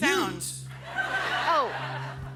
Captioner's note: laughter